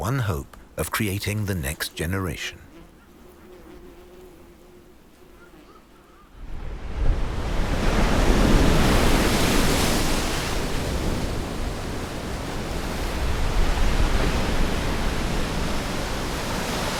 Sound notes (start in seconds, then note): 4.4 bugs buzzing; 7.1 waves crashing